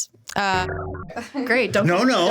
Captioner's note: swearing